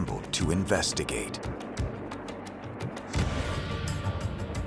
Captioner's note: whooshing